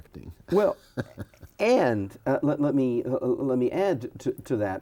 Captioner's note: laughs